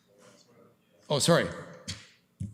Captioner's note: clerk speaks off mic